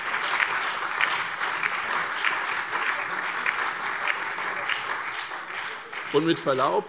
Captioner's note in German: Lebhafter Beifall SPD, CDU, BÜNDNIS 90/DIE GRÜNEN und DIE LINKE